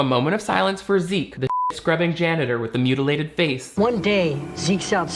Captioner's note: beep